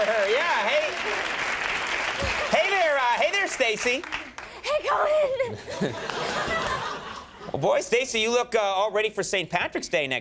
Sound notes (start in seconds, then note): 4.8 laughing